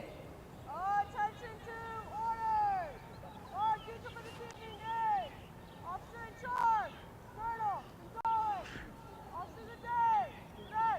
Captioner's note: shouted commands